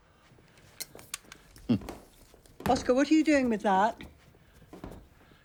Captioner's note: Oscar chuckles